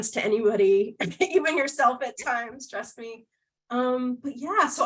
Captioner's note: laughter